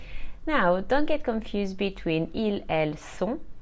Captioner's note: speaks French